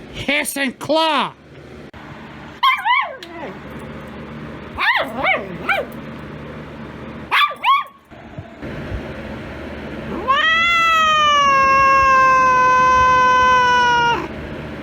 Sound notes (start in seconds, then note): 2.6 Caprice yowls; 2.6 Ella barks, yelps